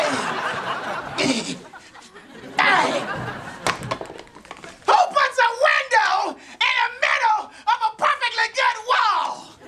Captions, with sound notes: [grunting] Who puts a window in the middle of a perfectly good wall?